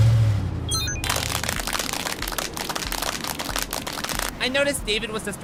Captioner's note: clapping